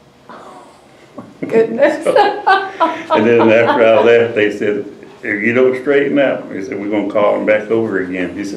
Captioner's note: laughter